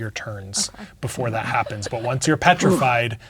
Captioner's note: laughing